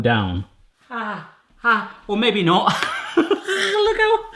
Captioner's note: laughing